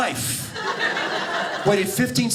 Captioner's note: audience laughing